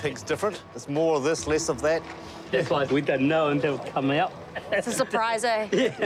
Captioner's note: chuckles